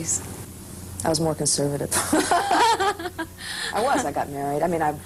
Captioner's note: laughter